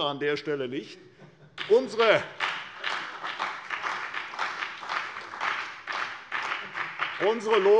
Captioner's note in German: Beifall bei der CDU und dem BÜNDNIS 90/DIE GRÜNEN